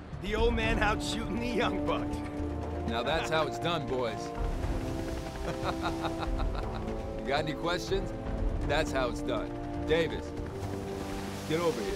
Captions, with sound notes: The old man outshooting the young buck. Now, that's how it's done, boys. (laughs) Got any questions? That's how it's done. Davis, get over here.